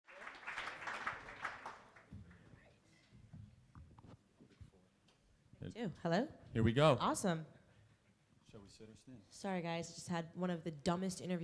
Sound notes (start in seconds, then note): 0.0 audience applauding